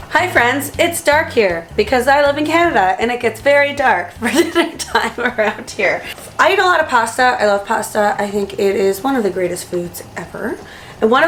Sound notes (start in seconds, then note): 4.2 laughing